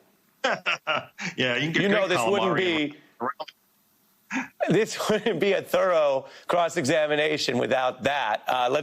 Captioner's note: laughs